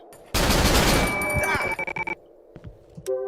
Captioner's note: choppy static